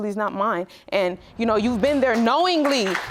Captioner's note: audience applauding